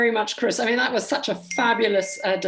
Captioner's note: phone beeps